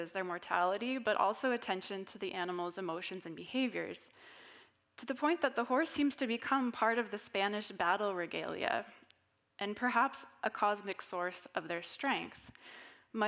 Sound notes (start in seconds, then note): none